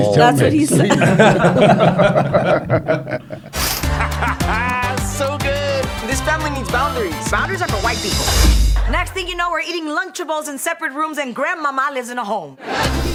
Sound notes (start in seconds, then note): 3.6 laughing